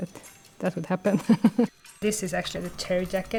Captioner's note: chuckling